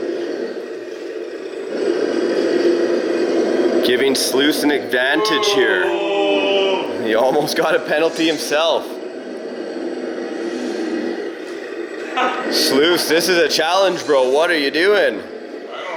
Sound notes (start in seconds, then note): 5.0 all booing